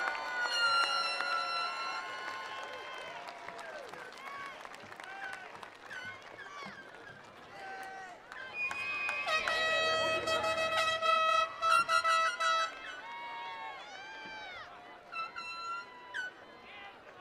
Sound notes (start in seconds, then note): 0.0 attendees applauding; 0.1 horns blowing; 8.7 horns blowing; 12.6 attendees cheering